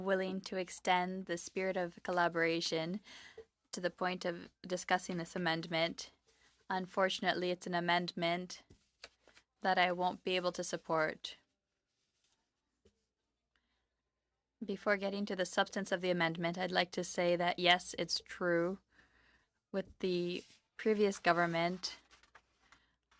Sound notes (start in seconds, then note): 4.1 speaking French